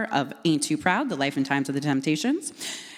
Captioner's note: none